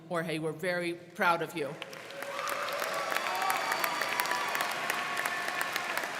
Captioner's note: crowd clapping